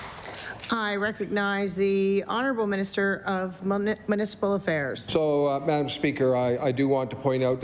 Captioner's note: applause